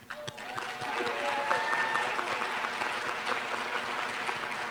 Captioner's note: applause